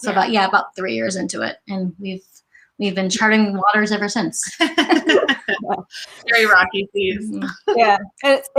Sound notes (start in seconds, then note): 4.8 laughs